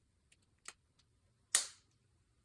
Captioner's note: snap